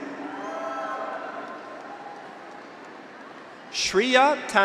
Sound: graduates cheer; audience applauds

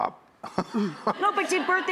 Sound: laughing

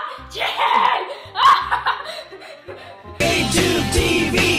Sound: child laughter

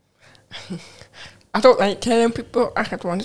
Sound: chuckles

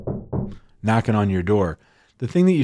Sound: knocks

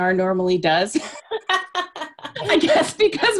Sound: animated laughing

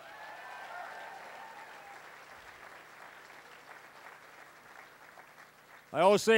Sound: cheering, applause

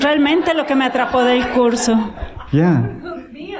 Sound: laughter

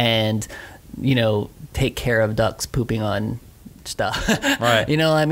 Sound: laughs

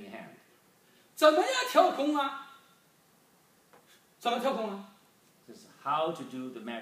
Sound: speaking foreign language

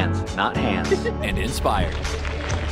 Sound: man in black shirt laughs

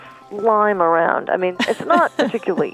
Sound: laughs at the thought

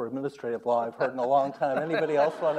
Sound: audience laughs

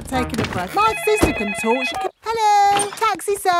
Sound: cellphone ringing

